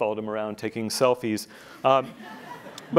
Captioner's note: laughing